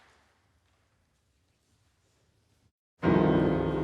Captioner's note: applause fades; silence